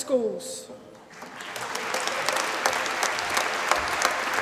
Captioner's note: applause